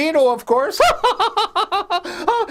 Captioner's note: laughs